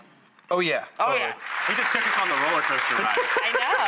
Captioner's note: applause